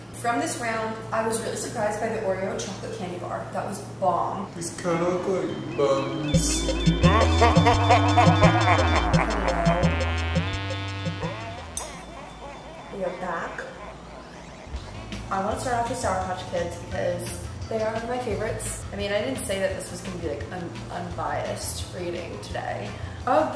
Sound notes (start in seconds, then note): 7.3 funky digital music; 7.3 man laughing; 11.2 funky digital music; 11.2 man laughing